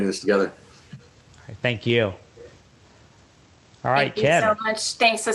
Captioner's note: chuckles